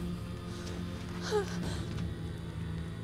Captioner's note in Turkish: Ateş çıtırtısı sesleri; Müzik - Gerilim; Aslıhan nefes sesi